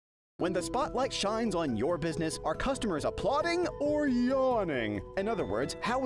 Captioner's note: voiceover